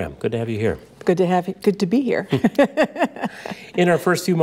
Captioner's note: laughs